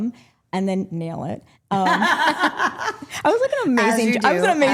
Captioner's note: group laughing